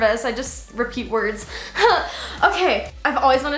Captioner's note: laughs